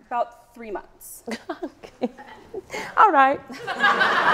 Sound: laughs

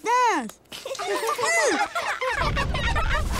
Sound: laughing

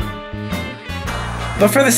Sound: TV static

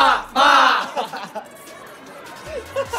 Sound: haha

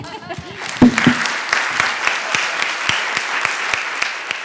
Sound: audience applauding

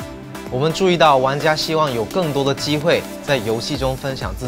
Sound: none

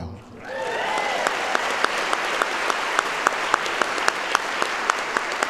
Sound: audience applauds

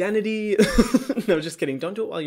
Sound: chuckles

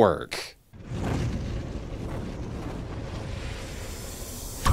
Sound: dramatic sounds

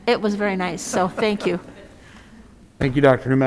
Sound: audience laughs

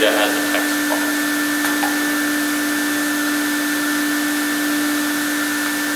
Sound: machine humming

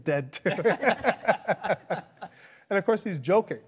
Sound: panelists laughing

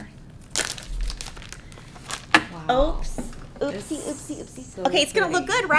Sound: wrapper rustling

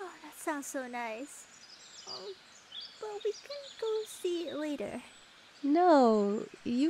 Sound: hesitant

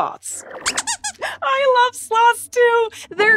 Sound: squeaks squeaking

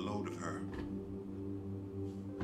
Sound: chair arm moves, and clicks

